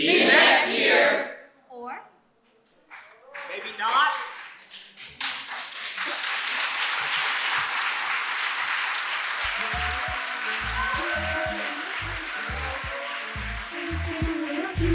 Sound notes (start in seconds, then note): 5.4 audience applauds